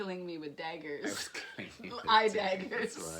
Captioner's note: chuckles